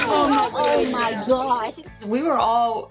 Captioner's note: group chattering